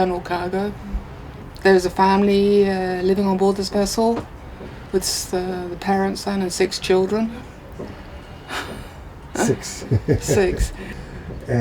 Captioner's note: laughs